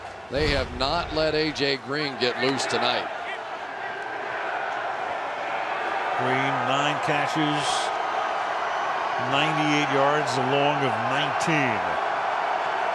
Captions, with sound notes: But they have not let AJ Green get loose tonight. [cheering] Green, 9 catches, 98 yards along of 19.